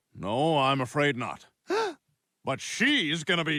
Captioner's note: gasps